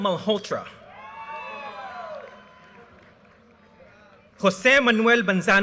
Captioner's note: audience cheers and applause